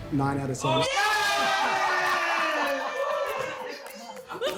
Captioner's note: cheering